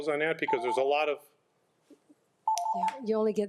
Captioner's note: chiming